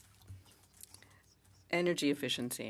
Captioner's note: speaking in French